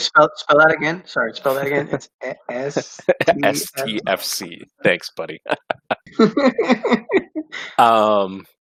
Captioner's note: laughing